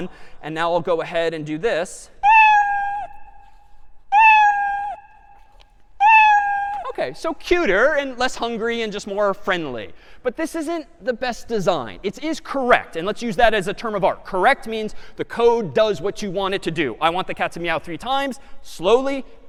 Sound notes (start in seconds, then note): 2.0 meowing